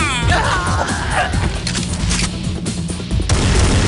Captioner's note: gun cocking; upbeat techno-rock music; guns blasting